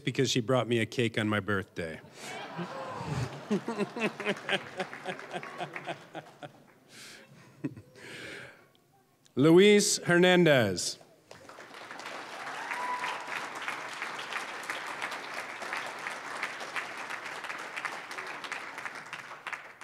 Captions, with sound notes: because she brought me a cake on my birthday. (audience laughing) Luis Hernandez. (applause)